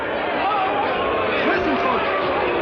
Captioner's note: shouting